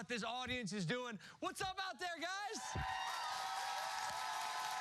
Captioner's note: cheers and applause